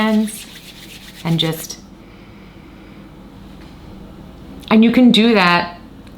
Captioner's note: inhales deeply